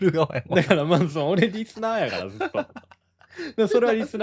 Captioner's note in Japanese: 笑い